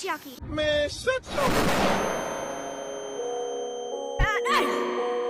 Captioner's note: boom